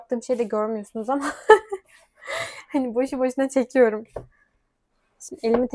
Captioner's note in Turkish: kahkaha